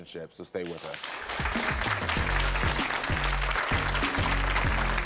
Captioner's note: audience applaud